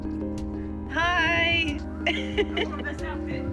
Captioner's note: laughs